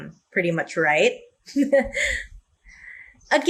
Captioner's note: laughs